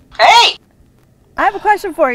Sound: voiceover

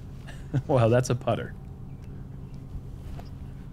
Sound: laughs

